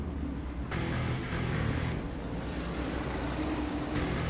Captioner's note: guitar-driven rock; tank engine revs